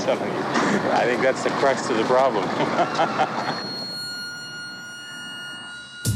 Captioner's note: laughs